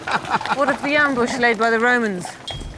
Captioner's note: laughs